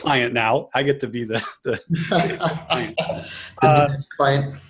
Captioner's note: laughs